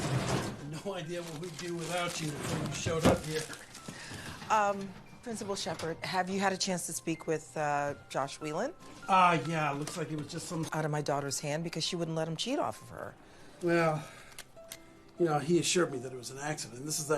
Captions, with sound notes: No idea what we'd do without you if you hadn't showed up here. [closes drawer, papers rustling] Um, Principal Shepherd, have youou had a chance to speak with, uh, Josh Whelan? Uh, yeah, it looks like it was just some sort of miscommunication, I guess. Well, you know, he assured me that it was an accident. This is actually the first thing I'm hearing